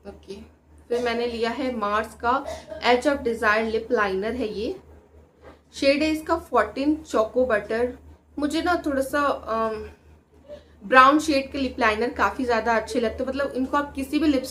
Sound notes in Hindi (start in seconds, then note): 4.8 नाक से की जाने वाली आवाज़